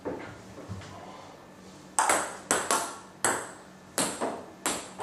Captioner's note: ball ping pong hitting continues